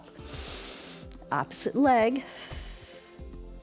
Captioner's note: exhales; inhales